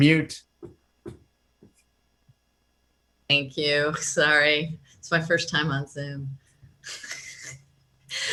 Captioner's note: laughter